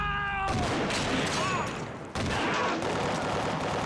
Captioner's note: gunshot rings